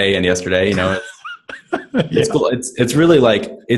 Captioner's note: laughing